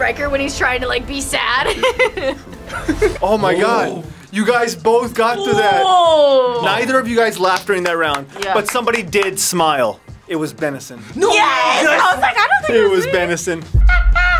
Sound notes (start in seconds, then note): 1.3 fox laughs